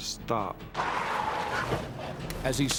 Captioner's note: tires screech